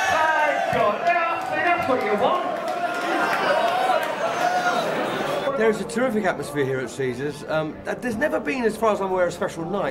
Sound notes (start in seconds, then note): 3.3 crowd cheering and clapping